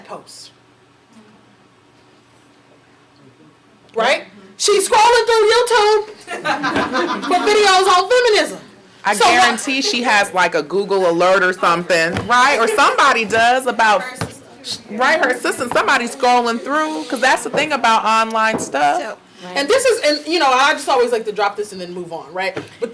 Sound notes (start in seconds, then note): 6.2 audience laughing